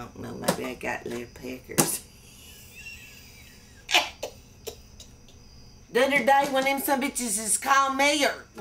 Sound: laughs

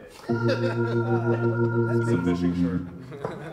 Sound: laughing

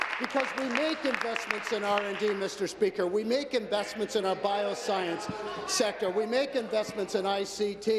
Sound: applause

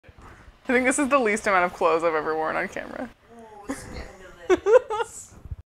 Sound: laughs

